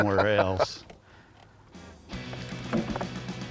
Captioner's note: laughs